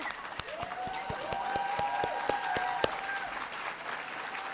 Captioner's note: crowd cheering